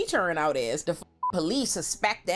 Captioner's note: beep